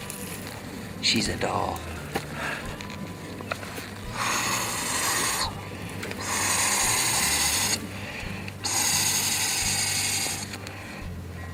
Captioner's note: air blowing